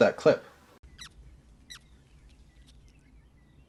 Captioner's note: mouse squeaking